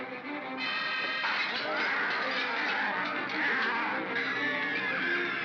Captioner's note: suspenseful music; bogeymen growl; glass breaks; children scream; suspenseful music